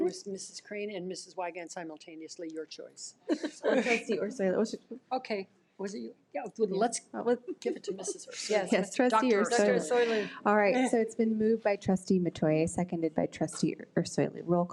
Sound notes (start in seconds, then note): 3.3 audience laughs